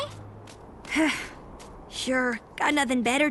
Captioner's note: sigh